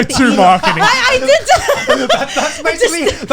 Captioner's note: laughs